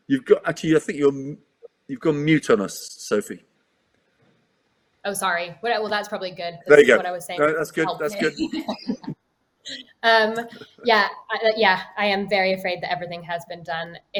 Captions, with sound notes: Actually, I think you've got mute on us Sophie. - Oh, sorry. Well that's probably good. - There you go. - What I was saying. (laughs) - That's good, that's good. - Yeah, I am very afraid that everything has been done.